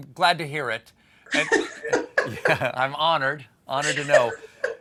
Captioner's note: laughter